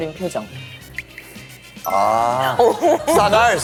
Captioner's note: pfft